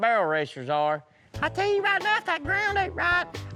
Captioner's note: imitating female voice